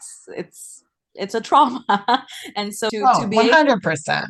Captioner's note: laughs